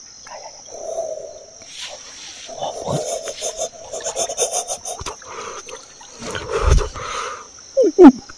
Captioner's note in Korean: 감탄